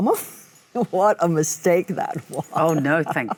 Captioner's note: Michelle laughs